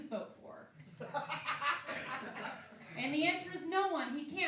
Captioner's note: laughing